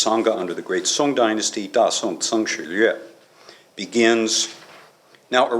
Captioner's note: non-english